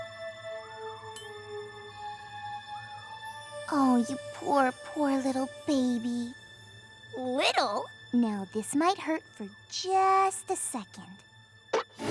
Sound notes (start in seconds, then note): 1.1 tink!